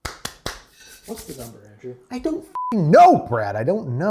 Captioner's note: claps; beep